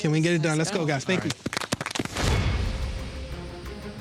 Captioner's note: all applauding; dramatic music